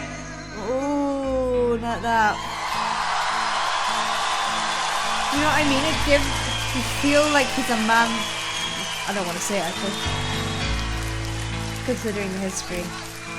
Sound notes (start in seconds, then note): 2.9 audience cheers